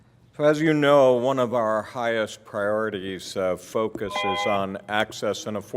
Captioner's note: bell sound